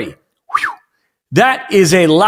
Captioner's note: whistles